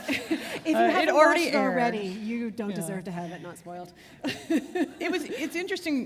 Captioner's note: chuckle